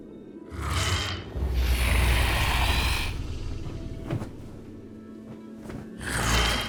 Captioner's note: dragon growls; feathers flaps